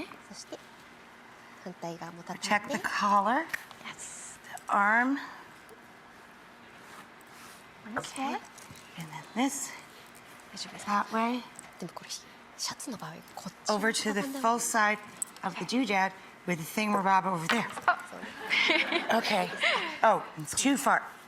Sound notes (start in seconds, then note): 0.1 Marie Kondo speaking Japanese; 12.0 Marie Kondo whispering Japanese; 18.2 audience laughs